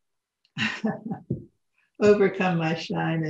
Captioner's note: laughs